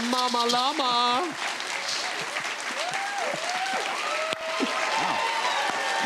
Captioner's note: cheers and applause